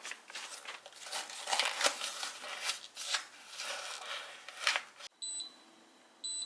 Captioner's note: the packaging sound is so loud, edit